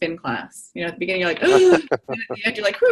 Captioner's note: laughter